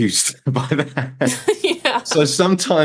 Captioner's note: laughs